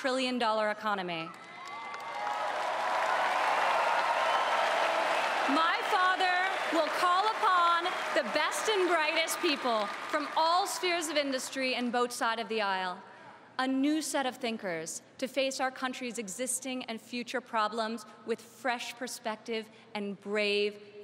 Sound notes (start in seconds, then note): 8.3 applause